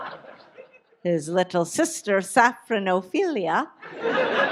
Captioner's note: audience laughs; audience laughs